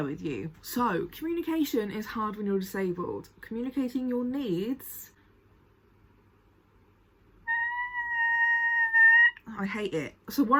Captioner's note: high pitched scream